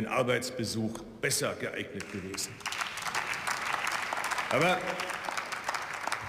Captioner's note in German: Beifall